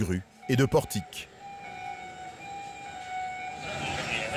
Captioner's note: alarms blaring